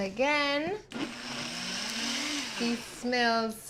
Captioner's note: whirs loudly